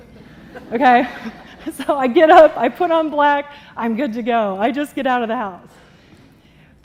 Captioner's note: laughter